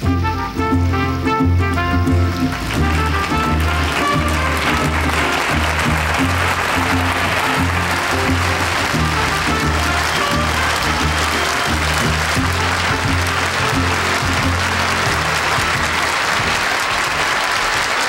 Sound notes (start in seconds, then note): 0.1 lively horn music; 2.8 audience applauding; 17.8 audience applauding